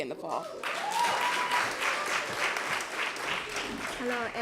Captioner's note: applause